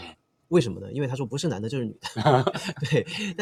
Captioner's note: laughs